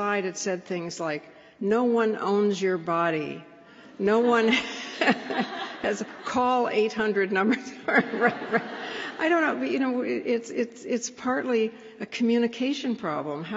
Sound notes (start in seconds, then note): 4.4 laughs; 7.5 laughter